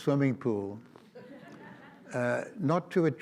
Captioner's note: audience laughs